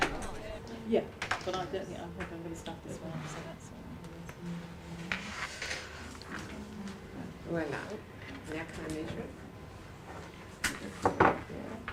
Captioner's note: audience chatter